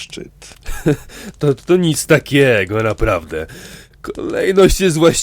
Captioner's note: laughs